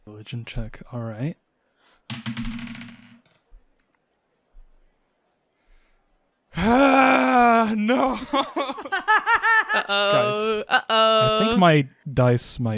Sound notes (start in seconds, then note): 8.1 laughter